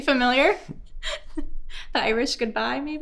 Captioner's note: host laughing